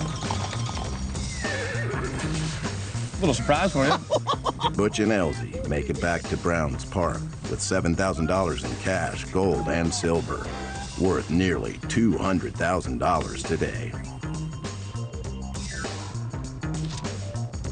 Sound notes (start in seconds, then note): 3.3 Elzy laughs; 14.6 upbeat music